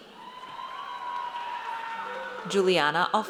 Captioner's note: audience cheers